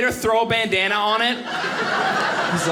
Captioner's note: audience laughing